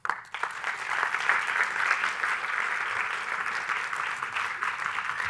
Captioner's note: audience applauding